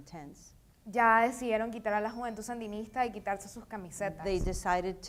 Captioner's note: speaking in foreign language